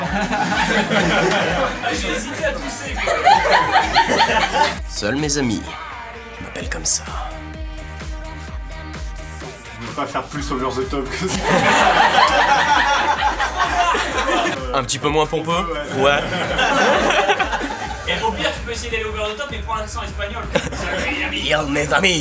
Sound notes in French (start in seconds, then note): 0.0 rires hors-champ; 3.0 rires hors-champ; 11.3 rire général; 16.1 rires